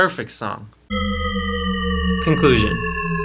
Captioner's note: descending Shepard tone